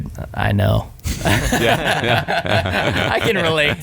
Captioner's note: laughing